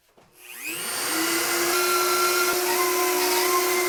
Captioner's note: power tool whirs